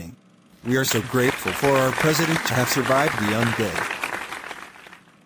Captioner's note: applause